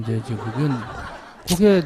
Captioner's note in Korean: 청중 웃음